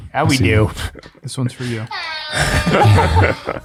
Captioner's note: friars laugh; sound effect blares